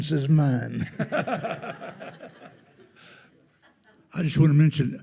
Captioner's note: everyone laughing